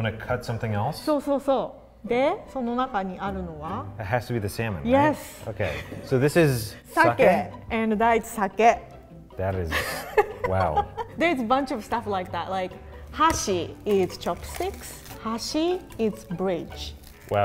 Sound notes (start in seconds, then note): 0.0 speaks in foreign language; 5.6 laughs; 7.1 both speak foreign language; 9.8 laughs; 12.8 speaks in foreign language